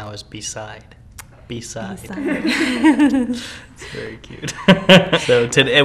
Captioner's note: couple chuckles